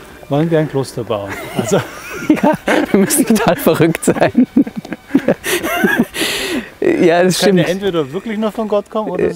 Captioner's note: laughs